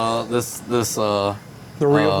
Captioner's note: laughing